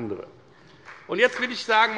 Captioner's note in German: Beifall bei der FDP